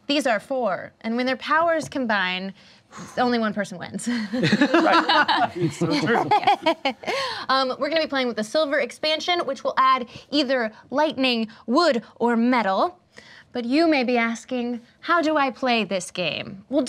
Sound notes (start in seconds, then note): 4.2 laughter